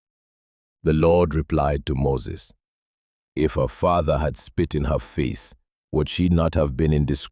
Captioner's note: pleading; speaking with authority